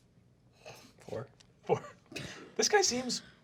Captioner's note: laughs